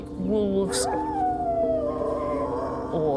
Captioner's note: howling